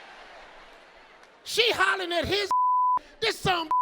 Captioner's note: beep